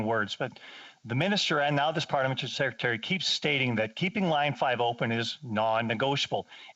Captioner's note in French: voix de l'interprète